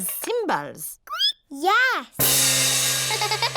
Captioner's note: squeaks; giggles